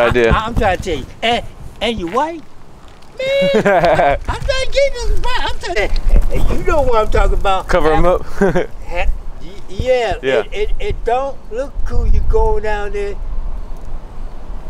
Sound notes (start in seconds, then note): 3.1 laughing